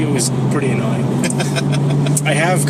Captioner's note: laughs